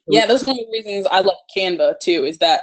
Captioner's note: murmurs